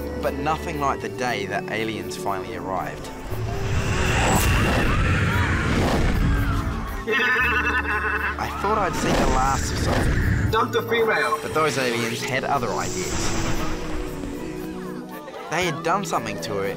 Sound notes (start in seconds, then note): 3.7 spaceship whooshing, people screaming; 7.3 aliens laughing